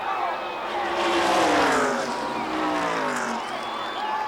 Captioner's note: engines rev